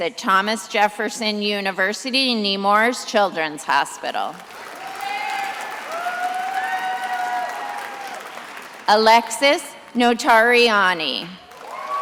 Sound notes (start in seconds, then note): 4.4 attendees applauding and cheering